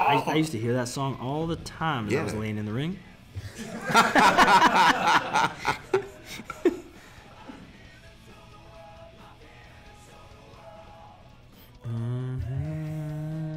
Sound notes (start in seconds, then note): 3.4 laugh